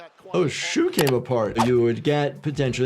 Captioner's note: video clicks; audio whooshes